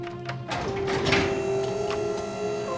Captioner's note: elevator whirring